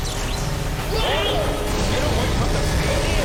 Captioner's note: scientist_screams.wav